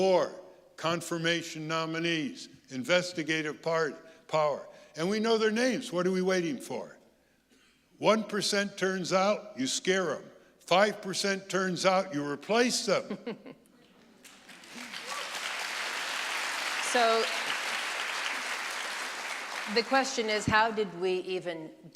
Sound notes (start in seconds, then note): 14.2 audience applauding